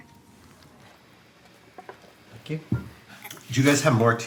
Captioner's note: silverware scraping dishes